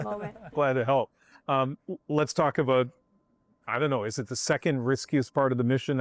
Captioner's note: laughter